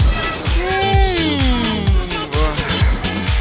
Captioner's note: debilitated lowing